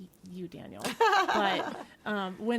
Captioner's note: others laughing